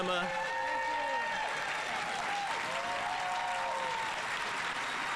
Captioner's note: audience applauding